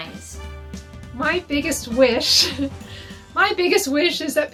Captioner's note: chuckles